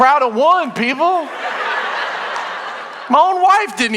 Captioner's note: congregation laughing